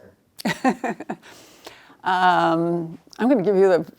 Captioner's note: laughing